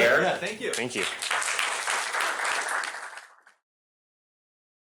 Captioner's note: applause